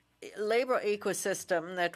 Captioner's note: speaking French